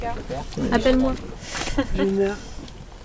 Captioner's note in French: rires